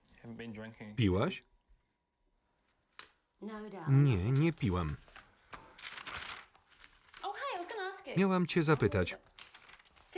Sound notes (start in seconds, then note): none